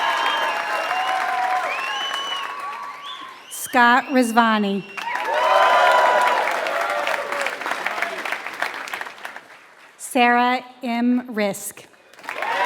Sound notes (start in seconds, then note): 0.0 applause; 11.9 applause